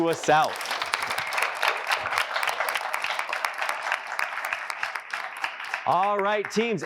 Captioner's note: applause